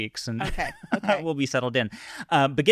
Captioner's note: laughing